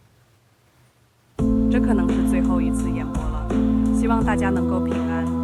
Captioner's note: speaking chinese